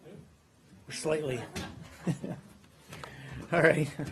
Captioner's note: laughter